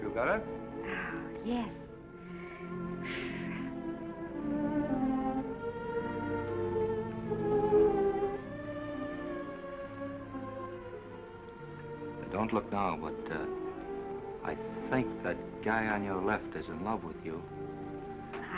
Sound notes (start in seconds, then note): 2.9 Esther exhales; 3.6 gentle music